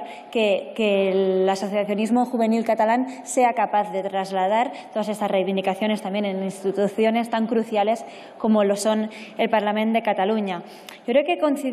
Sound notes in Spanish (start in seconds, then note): none